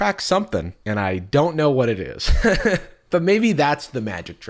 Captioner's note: laughs